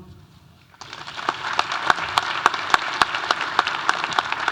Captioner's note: audience applauding